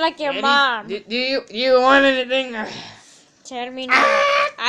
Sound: squawk

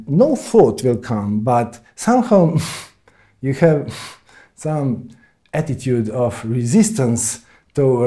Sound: puffs

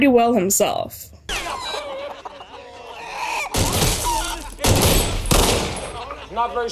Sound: gunshots and chickens clucking

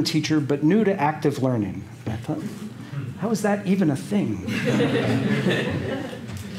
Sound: laughter

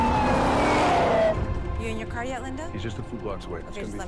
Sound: siren wailing

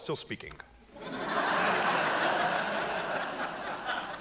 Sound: audience laughing

